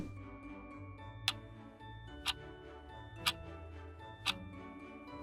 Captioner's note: clock ticking